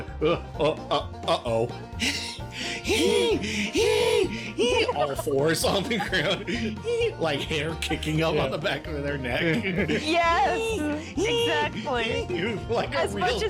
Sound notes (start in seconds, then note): 0.5 cough cough; 2.0 wheezing sounds